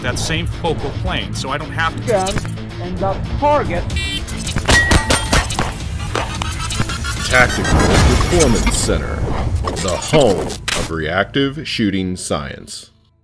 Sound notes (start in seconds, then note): 3.9 horn blowing; 4.6 quick gunshots; 6.2 music speeding up